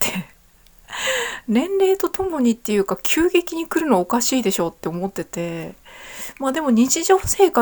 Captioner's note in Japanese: 息をのむ音